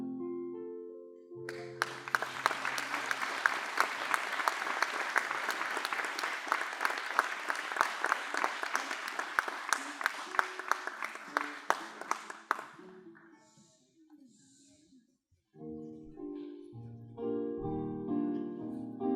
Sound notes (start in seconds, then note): 2.3 applause